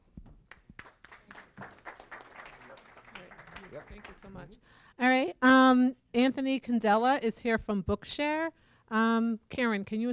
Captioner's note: applause